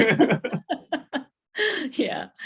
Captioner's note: laughter